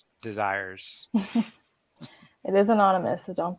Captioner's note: laughs